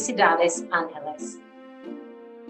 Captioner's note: foreign language